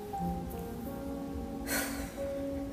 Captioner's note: sad music; sighs